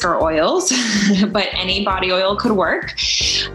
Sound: laughs

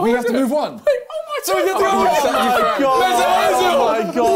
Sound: crowd mumbling

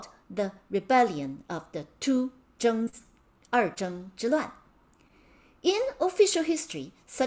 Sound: speaking in Mandarin

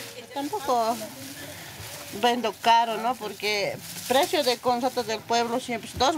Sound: speaking in foreign language

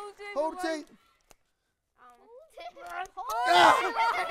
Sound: laughter

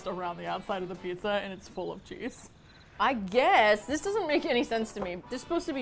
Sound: crickets

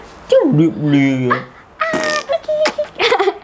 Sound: fart noise

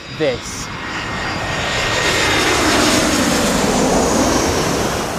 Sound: plane engine roars

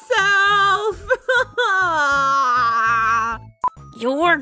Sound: sad noises

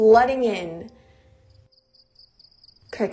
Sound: crickes chirping

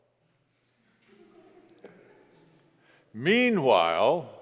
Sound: congregation laughs

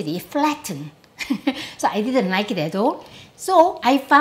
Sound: laughs

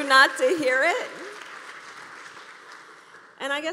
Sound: applause

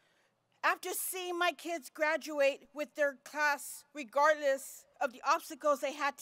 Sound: none

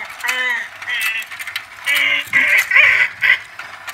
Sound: shark squealing

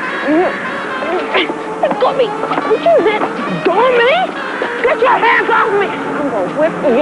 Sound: grunting

